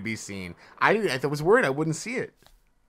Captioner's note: stammers